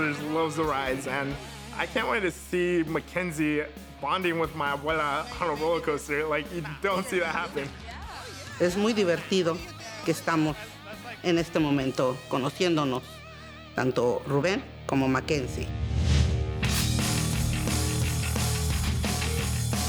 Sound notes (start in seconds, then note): 8.6 speaking Spanish; 16.4 upbeat rock music